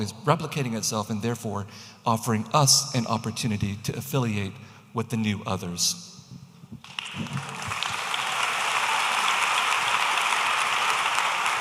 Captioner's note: audience applauding